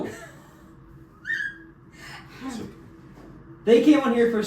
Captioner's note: squeak